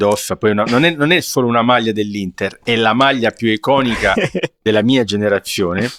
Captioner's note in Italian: risate